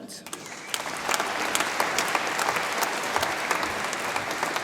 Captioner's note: audience applauds